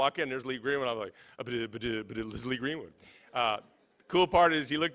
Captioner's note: stuttering